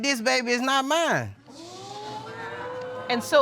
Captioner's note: audience exclaiming